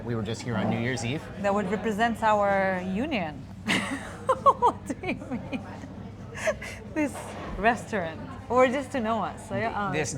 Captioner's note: laughing